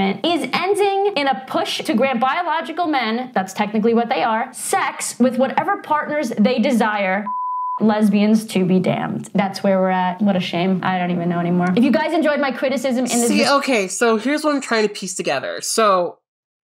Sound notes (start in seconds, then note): 7.2 beep